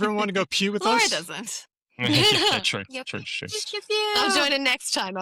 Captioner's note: laughter; laughs